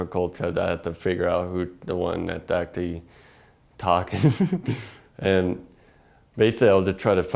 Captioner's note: laugh